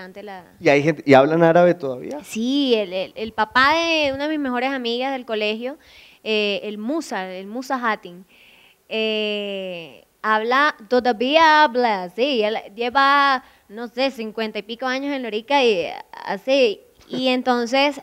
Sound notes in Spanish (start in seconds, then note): 10.1 con acento arabe